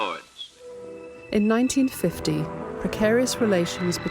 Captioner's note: voiceover